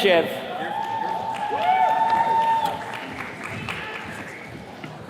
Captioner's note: attendees cheers and claps